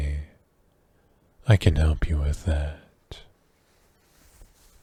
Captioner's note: shirt noise